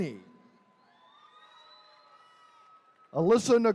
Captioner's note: attendees cheering